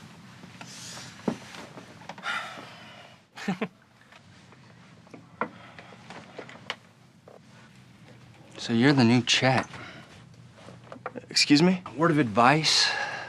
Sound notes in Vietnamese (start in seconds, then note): 1.8 cười khúc khích; 2.2 thở phào